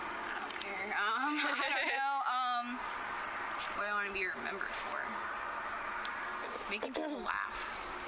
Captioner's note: laughs